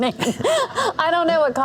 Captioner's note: laughing